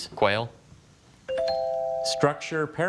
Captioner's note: bell chimes